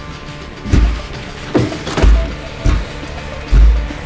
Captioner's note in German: Er klopft mehrmals mit ganzem Gewicht gegen die Tür